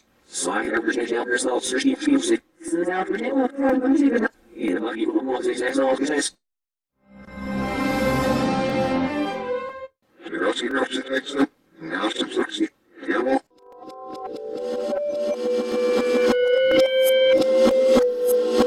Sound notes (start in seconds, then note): 7.3 orchestral music plays backwards; 10.2 PC voices yapping backwards